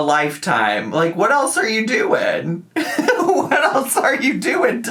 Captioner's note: laughs